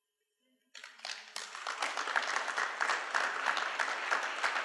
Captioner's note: applause